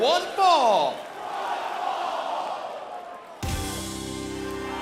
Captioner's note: crowd cheering